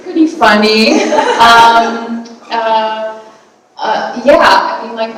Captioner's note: audience laughing